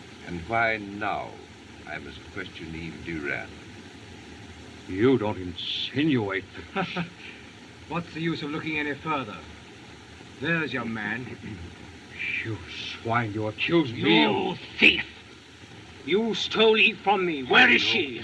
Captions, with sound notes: And why now I must question Eve Durand. You don't insinuate- [Laughs] What's the use of looking any further? There's your man. - You swine. You accuse me of- - You thief! Yous tole Eve from me. Where is she?